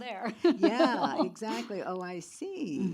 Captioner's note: laughs